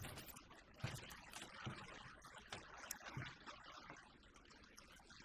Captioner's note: packing dishes